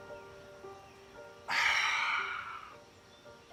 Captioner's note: sighs